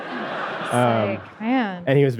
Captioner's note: audience laughing